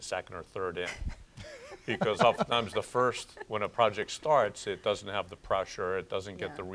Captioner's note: laughter